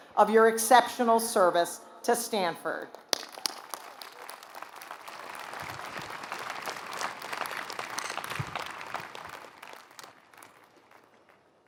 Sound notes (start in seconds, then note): 3.8 applause